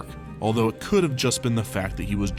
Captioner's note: none